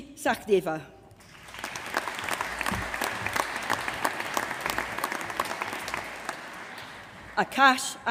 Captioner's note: applause